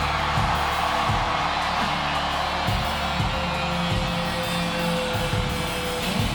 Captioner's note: crowd cheering; upbeat music continues